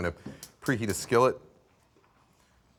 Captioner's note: burner clicks